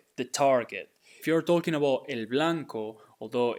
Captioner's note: speaking in Spanish